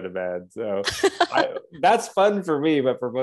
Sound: laughs

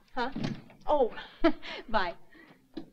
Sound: chuckles

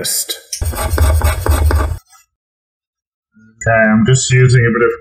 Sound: scraper scratches

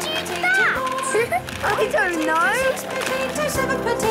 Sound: laughing

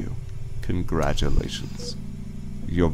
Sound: mechanical ambiance

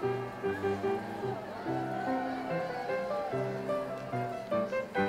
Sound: audience cheers

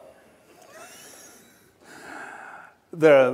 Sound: laughs

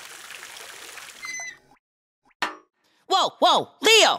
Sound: hose squeaks

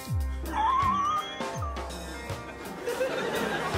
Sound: wheezes

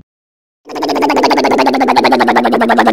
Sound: motor sound

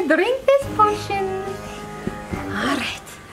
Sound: panting

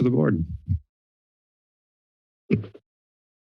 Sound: silence

